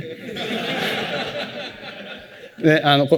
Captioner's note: laughter